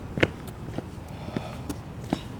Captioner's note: none